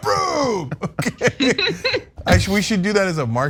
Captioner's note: laugh